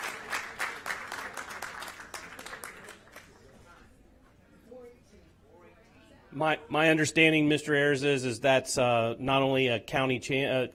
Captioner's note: applause